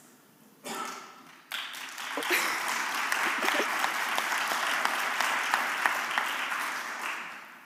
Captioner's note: applause